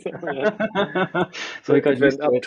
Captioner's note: both laughing